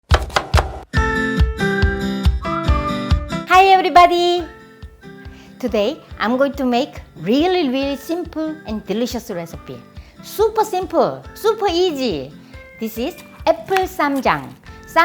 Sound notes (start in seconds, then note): 0.0 chopping; 0.1 upbeat music